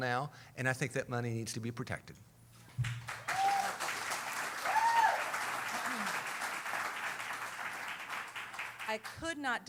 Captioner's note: cheering